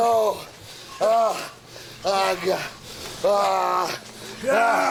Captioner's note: Booker groans